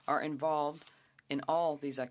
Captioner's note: speaking French